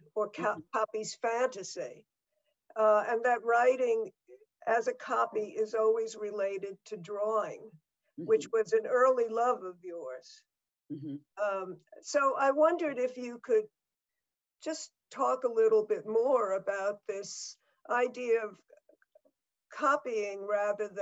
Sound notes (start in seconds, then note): none